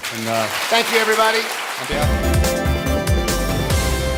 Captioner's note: applause